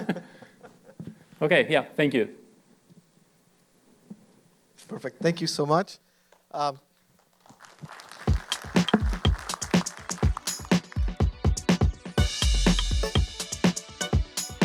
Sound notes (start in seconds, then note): 0.0 laughter; 7.3 applause